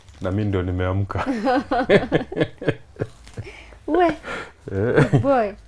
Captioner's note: laughs